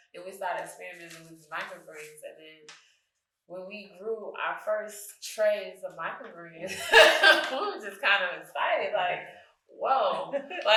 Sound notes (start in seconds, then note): 6.7 laughs